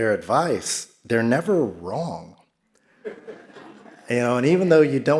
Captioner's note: audience laughs